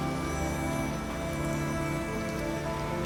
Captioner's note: construction noises fade; water dripping